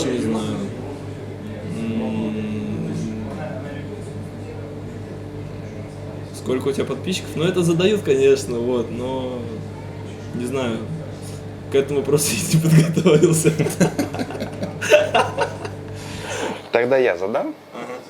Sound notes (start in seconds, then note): 15.5 laughing